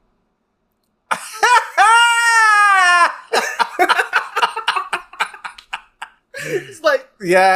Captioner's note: laughs